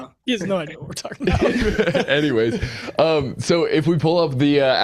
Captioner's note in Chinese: 笑声